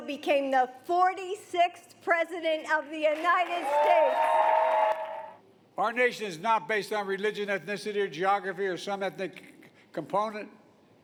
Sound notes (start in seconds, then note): 3.0 applause